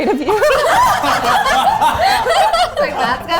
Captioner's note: all laugh